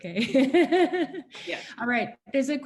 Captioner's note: laughing